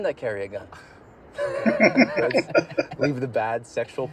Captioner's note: laughing